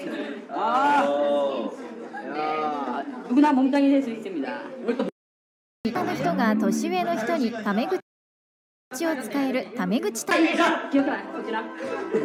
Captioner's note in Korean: 웃음